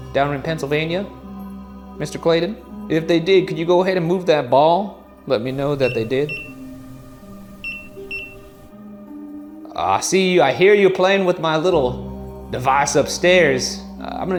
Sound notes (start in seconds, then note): 5.5 EMF beeping